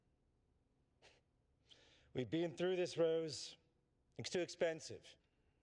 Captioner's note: scoffs